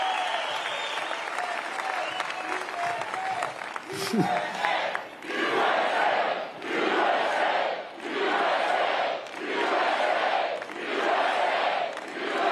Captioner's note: cheering and applause